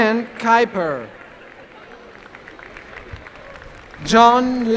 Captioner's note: applause